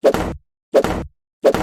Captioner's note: slam